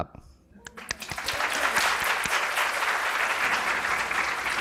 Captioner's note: applause